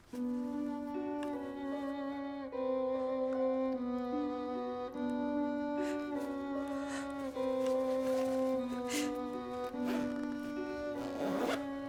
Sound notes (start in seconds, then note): 0.2 somber music; 6.1 Carol crying